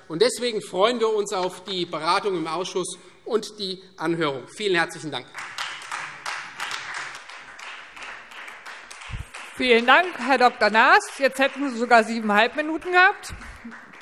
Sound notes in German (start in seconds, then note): 5.1 Beifall Freie Demokraten